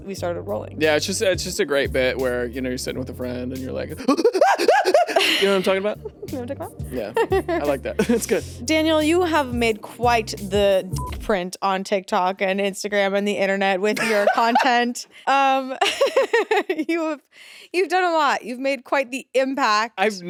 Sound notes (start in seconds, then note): 10.9 beep; 15.3 laughs